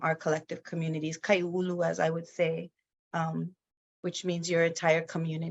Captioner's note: speaks in foreign language